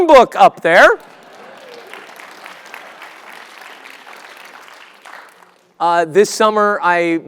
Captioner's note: applause